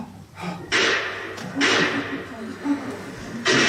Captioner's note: two gunshots